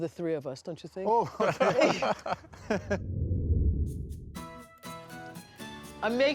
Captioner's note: laughter